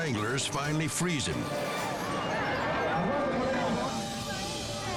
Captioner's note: crowd clamoring